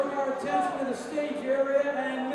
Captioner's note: crowd chatter